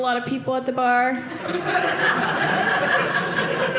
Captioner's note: audience laughing